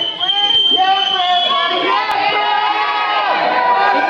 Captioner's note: people screaming "forever"